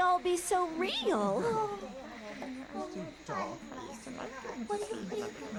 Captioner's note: animals mumbling